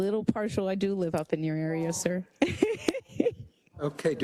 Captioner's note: laugh